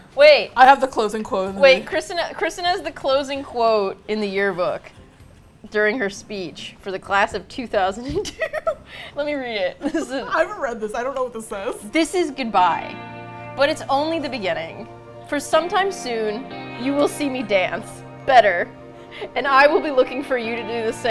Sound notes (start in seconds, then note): 8.0 both laugh; 11.5 sentimental music